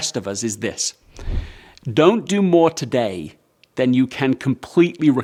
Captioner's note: air swooshes